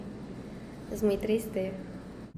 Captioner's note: Spanish